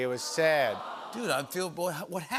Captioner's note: audience "Awws"